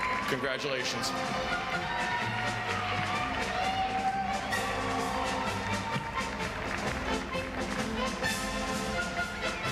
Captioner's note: applause